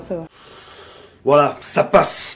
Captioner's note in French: Bruit d'aspiration